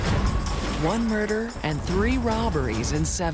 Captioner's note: gunshot